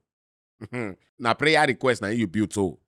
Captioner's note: chuckles